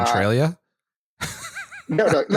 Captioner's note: laughs